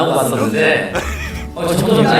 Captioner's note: choke